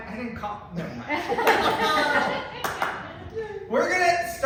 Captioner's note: laughter